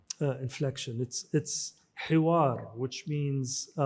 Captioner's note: speaks in foreign language